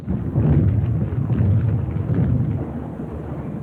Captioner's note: bombs exploding